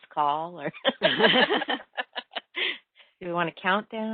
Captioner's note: laughing